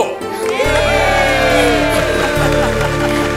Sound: applauds

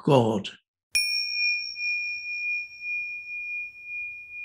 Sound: bell rings

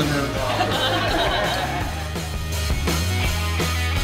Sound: patrons laugh

